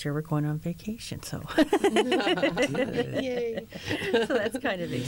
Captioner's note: laughter